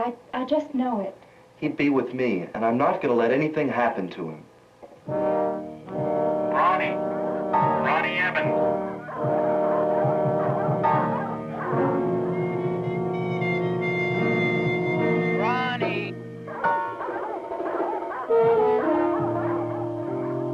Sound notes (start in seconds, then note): 4.8 eerie music; 9.2 hounds barking in distance; 12.5 eerie music; 15.4 calling out; 16.6 hounds barking in distance